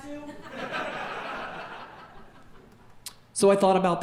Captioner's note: audience laughing